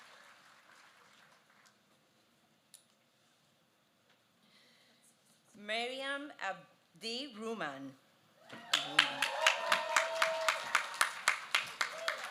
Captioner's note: cheers